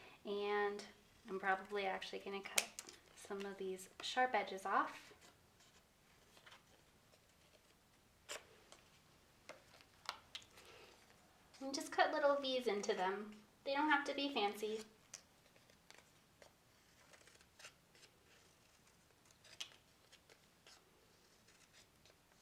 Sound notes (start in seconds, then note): 16.6 scissors snipping